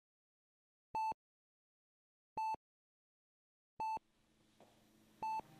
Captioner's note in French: Bips de Monitoring plus rapides